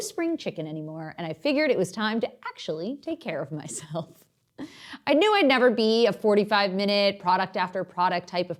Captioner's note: chuckle